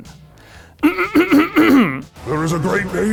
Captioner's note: clears throat